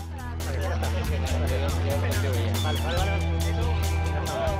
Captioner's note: Spanish spoken audio